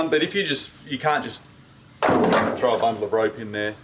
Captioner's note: clunking